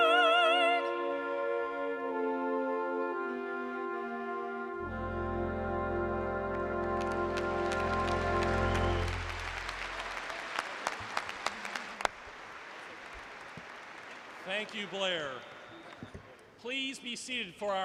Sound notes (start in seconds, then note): 9.7 applause